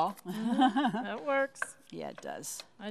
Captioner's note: laughs